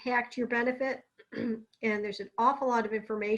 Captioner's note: clears throat